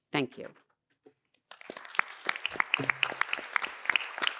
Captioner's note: applause